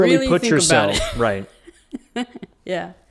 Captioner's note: laughs